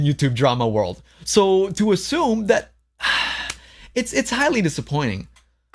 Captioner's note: sighs